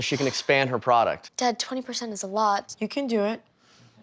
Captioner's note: sighs